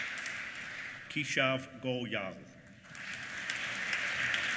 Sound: applause

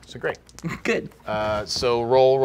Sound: laughing

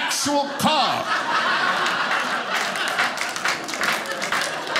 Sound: audience laughing

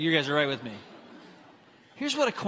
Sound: congregants laughing

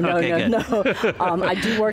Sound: laughter

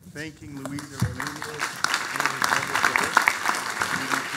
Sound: audience applauding

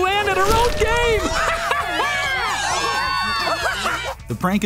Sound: laughing, cheering

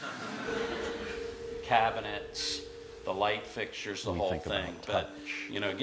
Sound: laughter

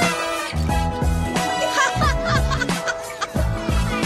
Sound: laughing

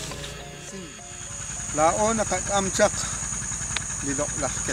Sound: insects chirping

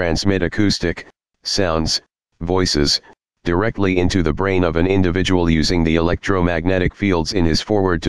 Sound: sounds, voices

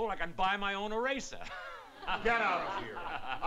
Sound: laughs

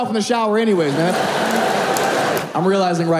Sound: audience laughing

